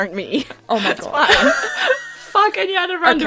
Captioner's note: laughter